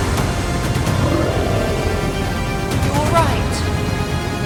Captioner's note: creature growling